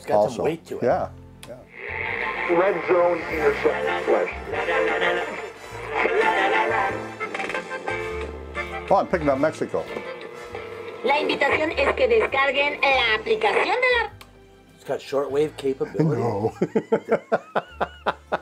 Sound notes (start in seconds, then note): 11.3 woman speaking in foreign language; 15.9 laughing